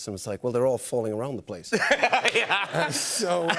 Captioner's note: laughs